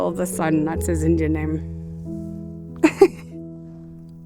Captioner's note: chuckling